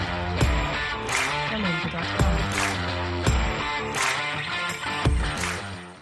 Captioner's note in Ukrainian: оплески